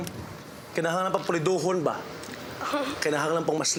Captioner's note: in Bisaya; chuckles